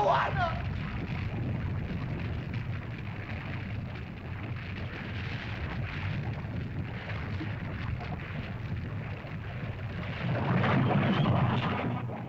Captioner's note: lava bubbles & flows